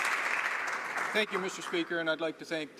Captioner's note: some Applause